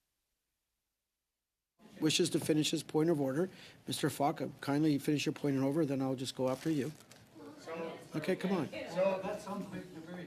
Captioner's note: mixed voices